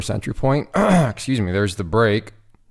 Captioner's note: clears throat